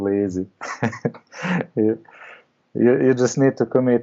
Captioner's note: laughs